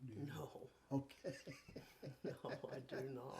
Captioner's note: chuckles